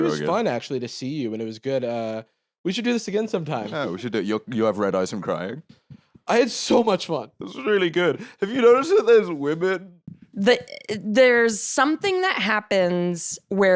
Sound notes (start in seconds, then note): 6.2 choked up